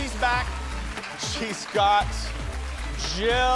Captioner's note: applause